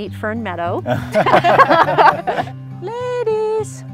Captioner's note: everyone laughs